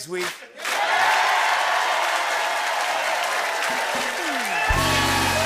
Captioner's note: cheers and applause